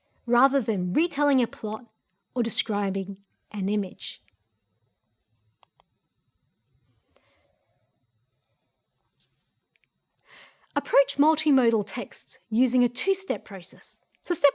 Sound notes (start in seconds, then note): 5.6 mouse clicks